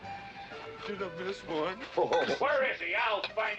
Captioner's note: laughing